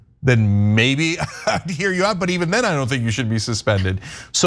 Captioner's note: laugh